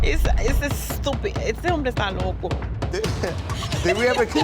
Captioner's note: speaking Spanish; woman laughing